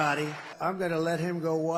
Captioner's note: cheering